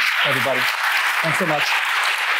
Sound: applause

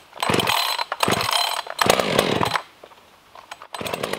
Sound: electric saw rumbling

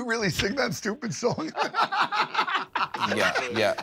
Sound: laughter

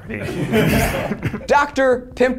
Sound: all laugh

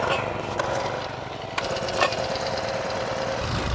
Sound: starters whirring; engines rumbling

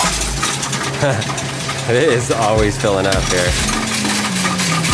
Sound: laughs

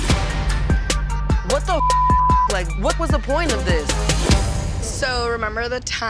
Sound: beep

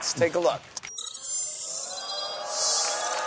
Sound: beeping

